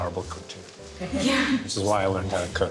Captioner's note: laughter